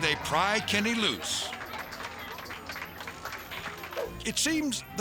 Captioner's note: audience applauding